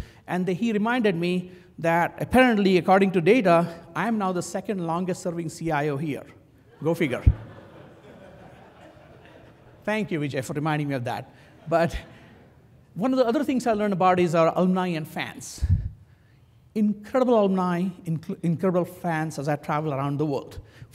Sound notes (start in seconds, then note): 7.3 laugh